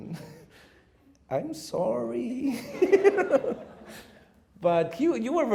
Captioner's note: laughing